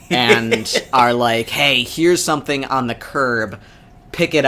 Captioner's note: laughs